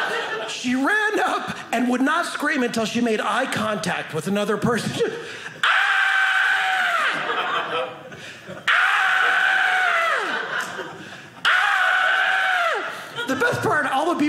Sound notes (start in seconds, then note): 0.0 audience laughing; 5.6 screaming; 7.0 audience laughing; 8.6 screaming